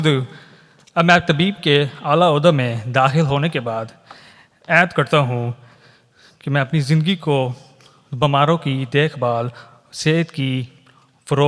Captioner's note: speaking urdu